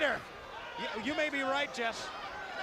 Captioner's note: crowd chatter